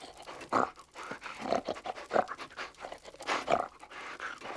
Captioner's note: snuffling and snorting